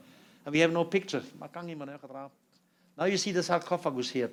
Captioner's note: non-english speech